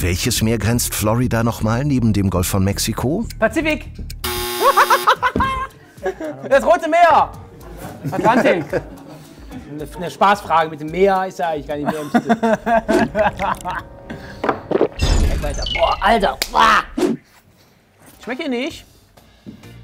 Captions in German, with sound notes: Pazifik! (Lachen) Das Rote Meer! Was war's denn? 'Ne Spaßfrage mit dem Meer ist ja eigentlich gar nicht mehr im Sinn. (Lachen) (Spannungsvolle Musik) Boah, Alter! Schmeckt dir nicht?